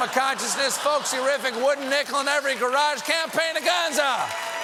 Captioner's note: applause